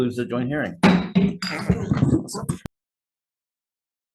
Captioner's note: gavel bangs